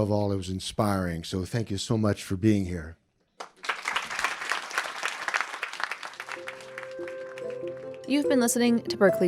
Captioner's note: applause